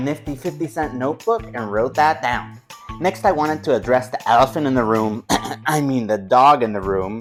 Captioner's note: throat clearing